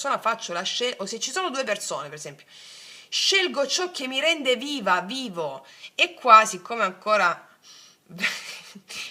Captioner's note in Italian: risate